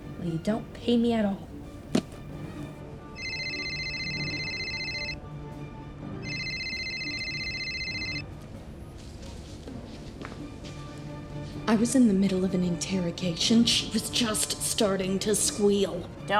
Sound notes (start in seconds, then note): 3.1 another phone rings